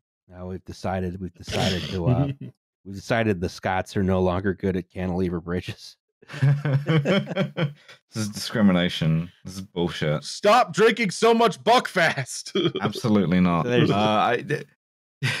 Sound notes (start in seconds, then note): 6.3 laughter